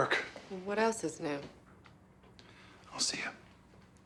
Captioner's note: none